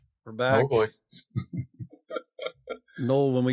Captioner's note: laughs